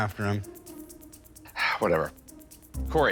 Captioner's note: sighs